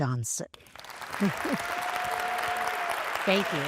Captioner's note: applause